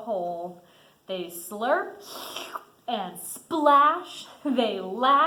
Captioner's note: slurps